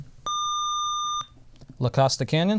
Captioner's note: buzzer